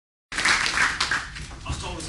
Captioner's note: applause